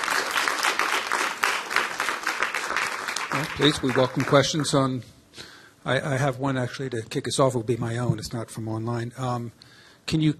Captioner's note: applause